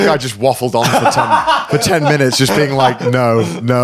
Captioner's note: laughing